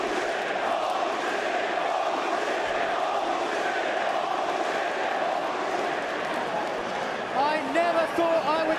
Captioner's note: crowd cheering